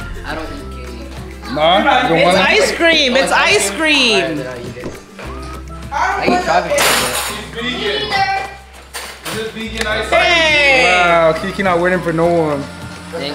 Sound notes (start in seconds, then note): 6.0 object clanking; 6.0 people chattering